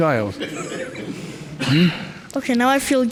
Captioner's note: crowd laughs